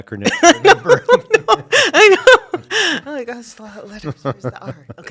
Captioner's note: laughter